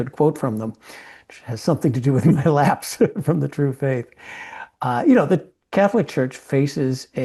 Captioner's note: laugh